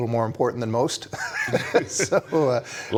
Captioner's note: laughs